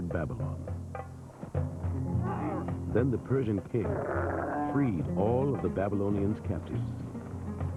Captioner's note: camels Braying